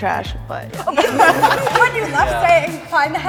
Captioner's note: group laughing